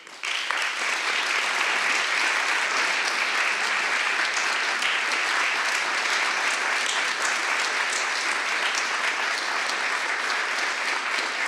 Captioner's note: applause